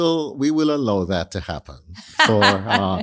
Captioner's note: laughs